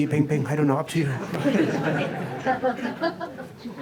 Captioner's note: laughter